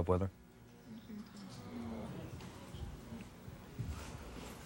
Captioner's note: audience murmuring